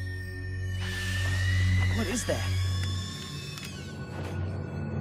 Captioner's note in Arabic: صراخ سيباريس